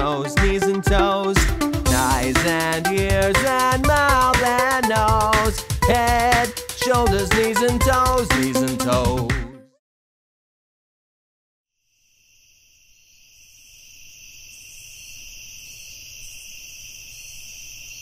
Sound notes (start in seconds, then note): 11.8 crickets chirping